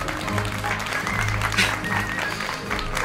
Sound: applause

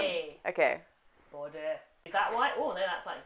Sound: vaguely Scottish

